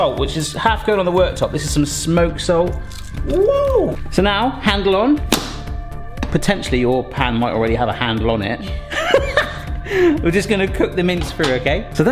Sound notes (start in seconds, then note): 8.9 laughter